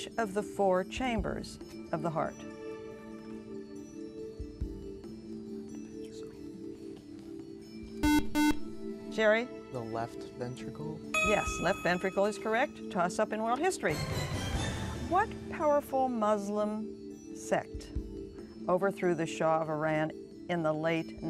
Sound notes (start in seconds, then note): 4.3 whispering; 6.4 buzzer